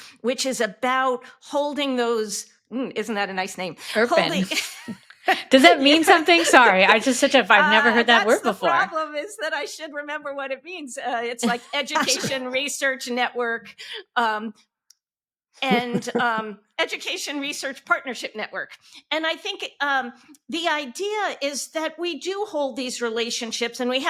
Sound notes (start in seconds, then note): 3.9 laughing; 11.9 hosts chuckling